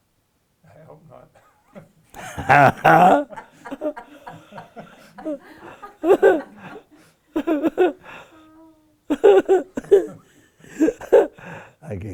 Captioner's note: and everybody laugh